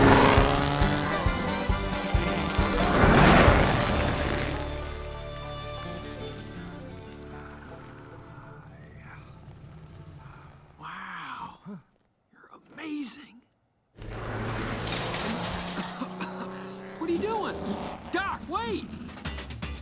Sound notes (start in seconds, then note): 0.2 engine revs; 7.8 Doc sighs; 11.8 Doc gasps; 14.0 engine revs; 15.7 Lightning McQueen coughs